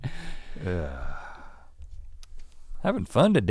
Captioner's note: Rhett sighs